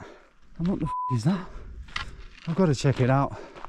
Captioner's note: beep